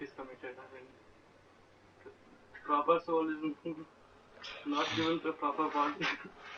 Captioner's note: laughs